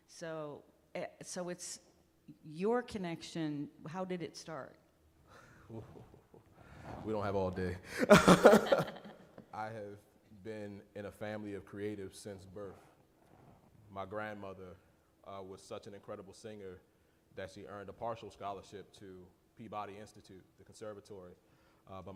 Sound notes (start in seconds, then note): 7.9 chuckling